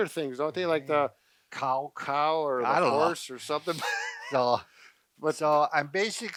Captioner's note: laughs